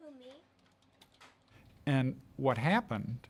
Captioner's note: children speaking softly